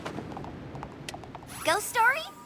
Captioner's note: light clicks